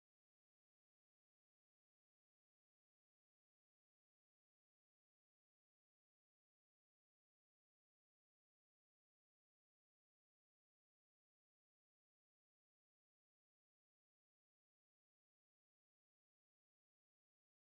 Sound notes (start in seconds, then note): none